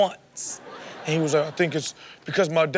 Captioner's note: crowd laughs